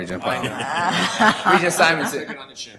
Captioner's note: laughter